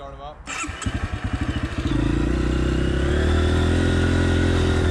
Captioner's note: bike engines running